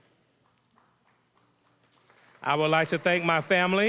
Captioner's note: applause